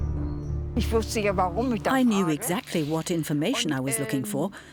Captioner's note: speaking German